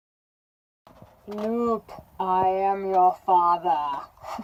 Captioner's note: laughter